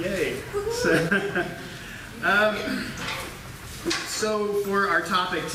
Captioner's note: chuckling